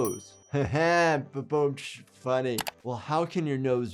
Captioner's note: bell ringing